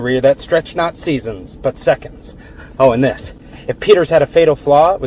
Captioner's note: none